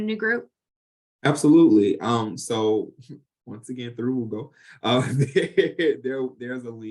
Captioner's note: chuckles